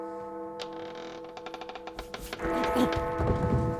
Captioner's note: A creaking door